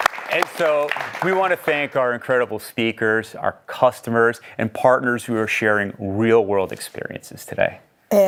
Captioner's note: applause